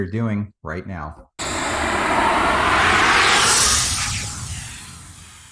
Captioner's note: spray paint hissing